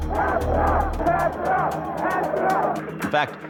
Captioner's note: protestors chanting